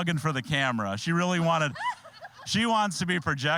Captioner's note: all laughing